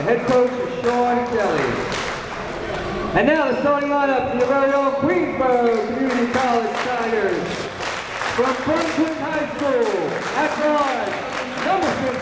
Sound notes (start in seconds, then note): 8.3 applauding